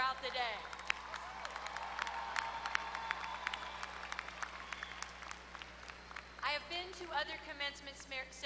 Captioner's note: applause